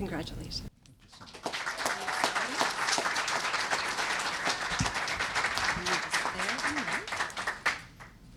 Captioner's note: applause